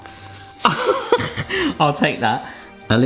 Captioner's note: laughing